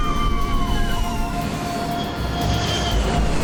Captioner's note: wind whistling